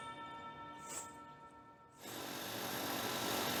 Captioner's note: bells ringing